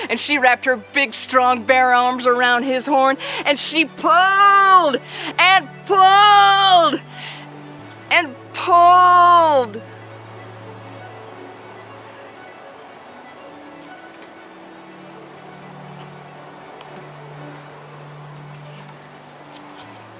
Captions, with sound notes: and she wrapped her big, strong bear arms around that rhino's horn and she pulled and pulled and pulled. (dramatic music) (wind whooshing)